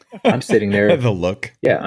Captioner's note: laughs